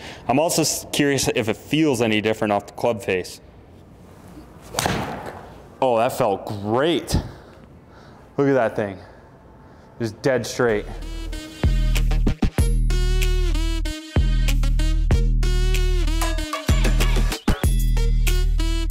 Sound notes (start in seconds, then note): 4.7 ball hitting screen; 11.0 upbeat techno music